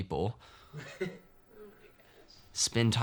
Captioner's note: laughs